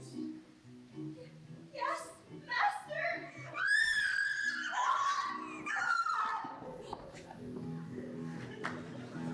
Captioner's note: volume Warning: Scream